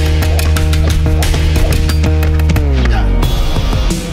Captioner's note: thudding